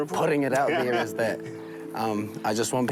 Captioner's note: laughing